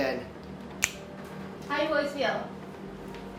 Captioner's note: fingers snap